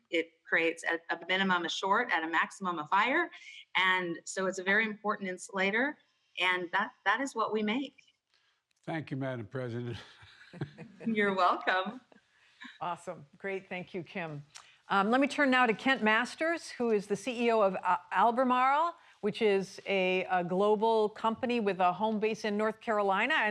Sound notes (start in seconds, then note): 9.5 laughs